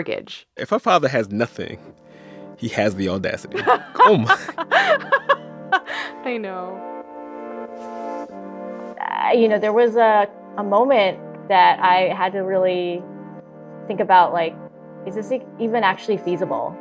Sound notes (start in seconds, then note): 3.5 laughter